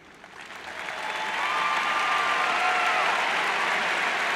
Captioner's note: cheers and applauds